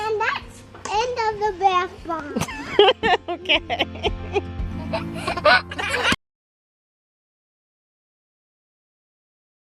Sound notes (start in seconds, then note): 4.7 laughs; 4.7 giggling